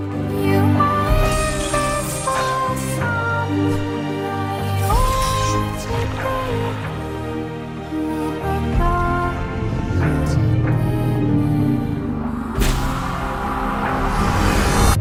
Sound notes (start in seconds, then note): 9.3 groaning; 12.5 an impact, then muted explosion